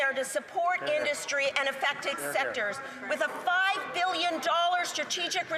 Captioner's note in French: voix de l'interprète